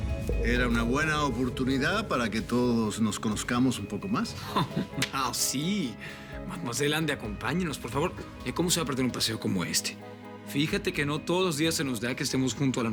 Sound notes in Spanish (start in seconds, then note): 4.3 Bruno ríe